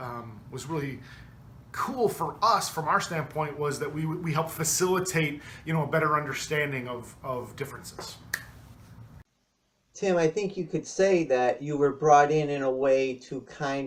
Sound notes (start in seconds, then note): 7.9 clapping of hands